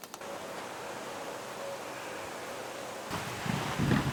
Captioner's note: wind blows